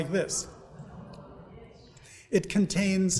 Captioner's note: audience murmuring